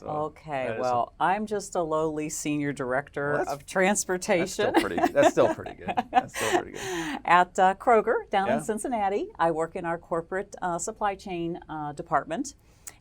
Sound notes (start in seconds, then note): 4.4 laugh